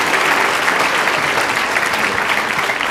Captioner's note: applause